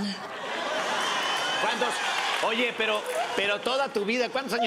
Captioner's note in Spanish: risas